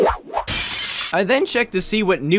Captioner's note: glass shatter